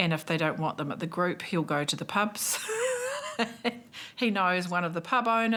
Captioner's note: laughs